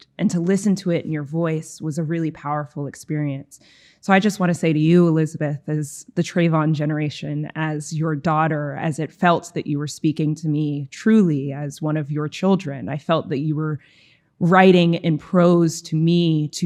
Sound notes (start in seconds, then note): none